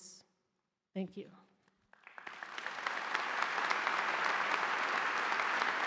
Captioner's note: audience applauding